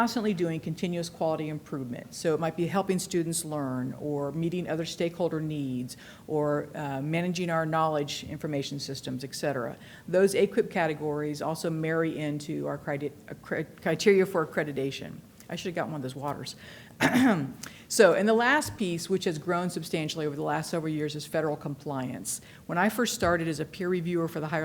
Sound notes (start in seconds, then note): 17.0 clears throat